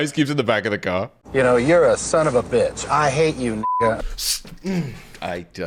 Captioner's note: beep; growling